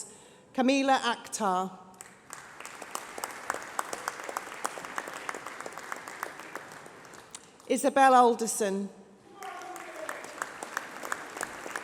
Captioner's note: applause